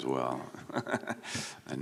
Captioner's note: chuckles